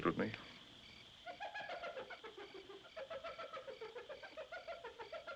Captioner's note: hyena Laughing